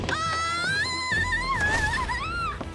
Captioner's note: screams